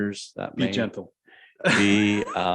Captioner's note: chuckles